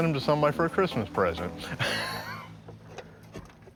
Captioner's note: laughs